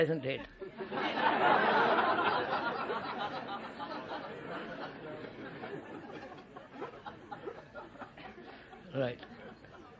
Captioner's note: laughter